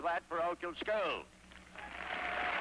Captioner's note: applause